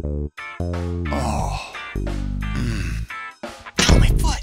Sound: grumbling

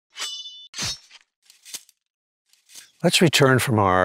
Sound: sword slashing

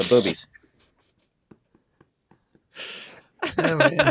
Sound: all laughing

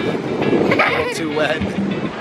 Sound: laughing

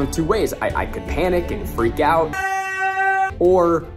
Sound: yelling

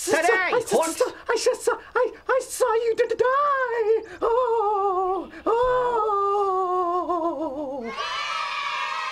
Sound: stuttering; wailing; childreen cheering

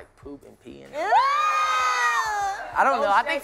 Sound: screams

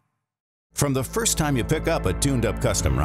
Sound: voiceover

